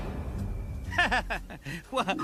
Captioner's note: laughing